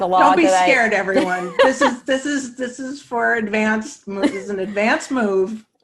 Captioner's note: laughs